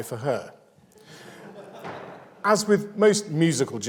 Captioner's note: audience laughs